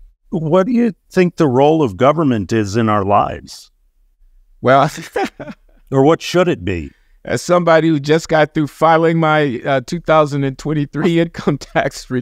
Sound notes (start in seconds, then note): 4.8 laughs